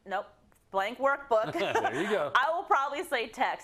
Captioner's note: laugh